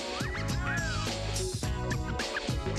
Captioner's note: wolf whistle